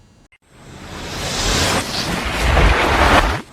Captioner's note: whooshing